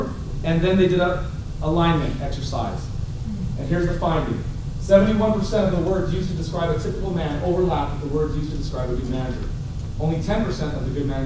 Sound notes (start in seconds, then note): none